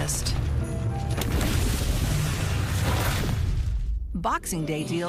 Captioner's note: click; whooshing